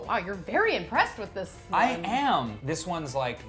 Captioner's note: none